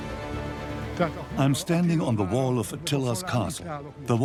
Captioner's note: dubbed in English